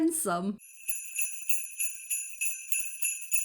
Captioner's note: sleigh bells